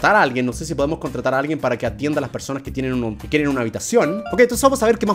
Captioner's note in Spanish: notificación